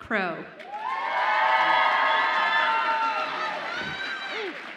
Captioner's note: audience applauds and cheers